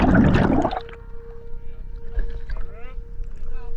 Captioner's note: audible breathing; bubbles bubbling